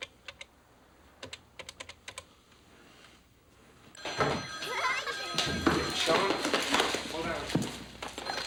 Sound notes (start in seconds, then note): 4.0 telephone ringing; 4.7 laughing